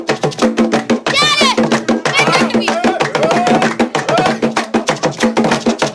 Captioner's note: speaking in foreign language